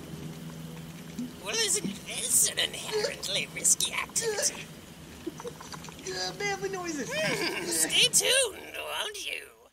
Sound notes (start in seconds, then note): 7.1 cries out; 7.1 cries out again; 7.1 cackles